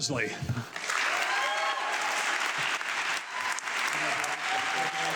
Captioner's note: audience clapping